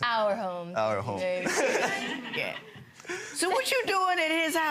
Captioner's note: laughing